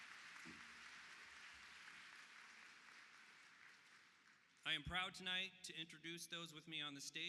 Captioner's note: applause